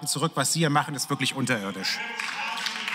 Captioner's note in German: Beifall